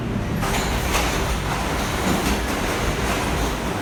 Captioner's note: train rattles